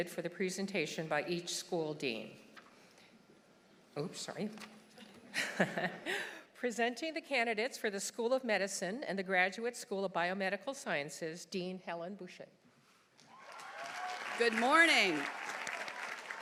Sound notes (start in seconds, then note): 5.6 laughs; 13.2 audience applauding; 13.2 audience cheering